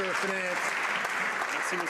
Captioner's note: some Applause